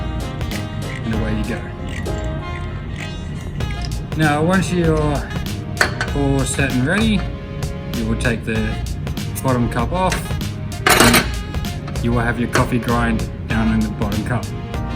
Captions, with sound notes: and away you go. (grinder grinds) Now once you're all set and ready, we will take the bottom cup off, (grinder clanks) you will have your coffee grind down in the bottom cup.